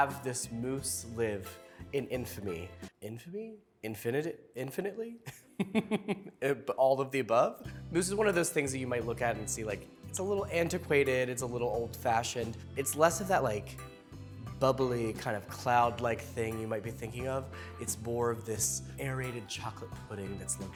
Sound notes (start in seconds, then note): 5.4 laughs